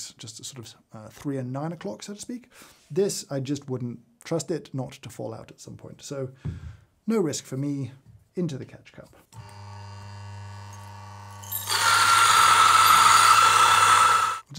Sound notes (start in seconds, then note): 9.4 grinder humming; 11.8 grinder whirring